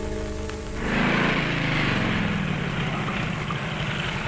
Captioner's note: engine rumbling